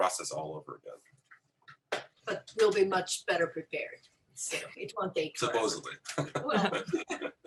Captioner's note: laughter